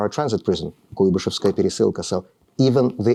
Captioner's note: speaking russian